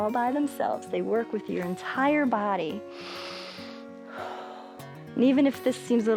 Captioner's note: inhales and exhales